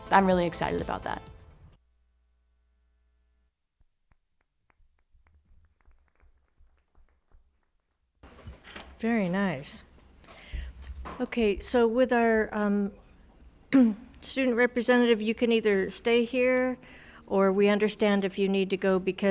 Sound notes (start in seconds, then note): 5.4 everyone applauding